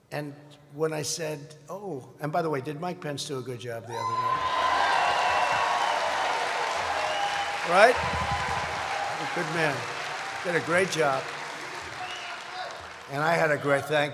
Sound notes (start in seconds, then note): 5.7 applause